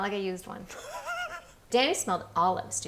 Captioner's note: laughing